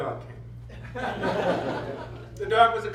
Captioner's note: laughter